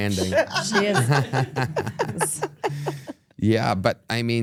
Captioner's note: everyone laughs